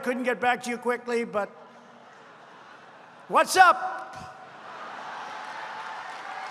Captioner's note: laughter